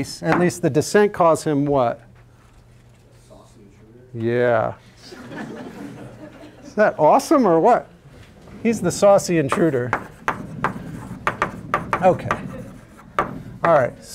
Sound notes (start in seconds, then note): 5.0 laughter